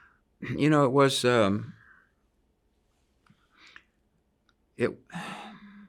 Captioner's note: sighs